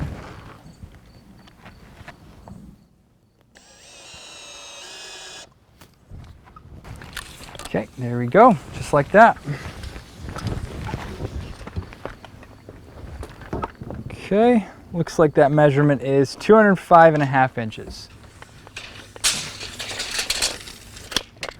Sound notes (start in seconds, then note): 1.0 drill whirring, no additional audio; 17.0 metal tape measure clanging, no additional audio